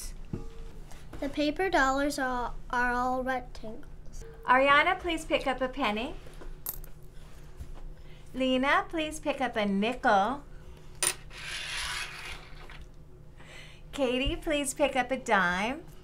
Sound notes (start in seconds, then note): 6.7 coin clicks; 11.0 coin clicks